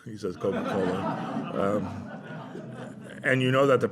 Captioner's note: laughter